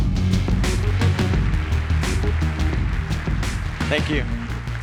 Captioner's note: audience applause